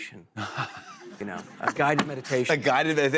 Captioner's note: laughter